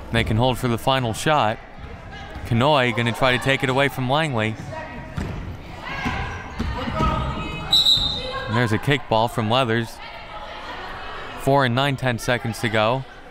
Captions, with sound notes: They can hold for the final shot. Kanhoye, going to try to take it away from Langley. (whistle) And there's a kick-ball from Leathers. Four and nine-tenths seconds to go.